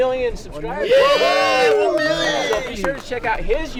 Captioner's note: cheering